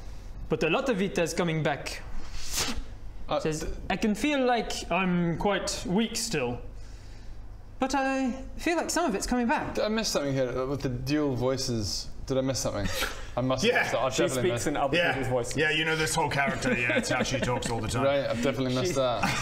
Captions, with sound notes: but a lot of it is coming back *pffph* she says I can feel like I'm quite weak still but I feel like some of it's coming back Did I miss something here with the dual voices did I miss something? I must have - Yeah! - I've definitely missed She speaks in other people's voices yeah you know this whole character yeah it's how she talks all the time Right, I've definitely missed that